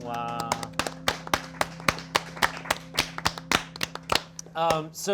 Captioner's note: crew clapping